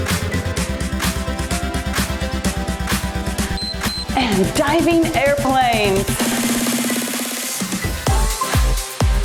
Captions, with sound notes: (timer beeps) And diving airplanes. (cheerful music)